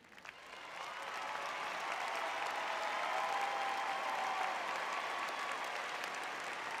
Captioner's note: audience cheering